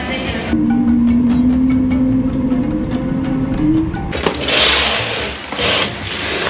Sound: bright music; airplane engine roaring

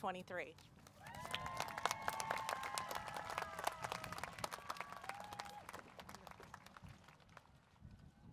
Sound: applause, Cheering

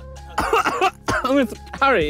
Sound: coughing

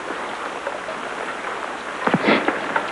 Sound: sniffs

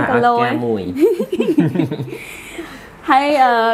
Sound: laughing

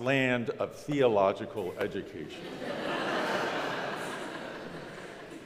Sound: crowd laughs

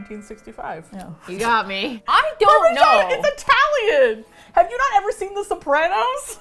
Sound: laughs

